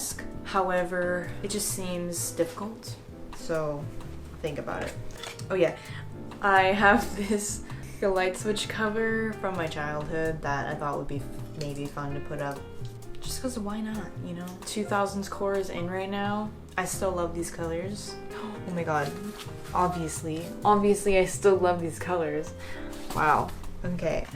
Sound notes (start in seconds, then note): 18.3 gasp